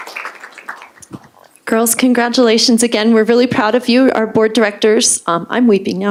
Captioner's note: applause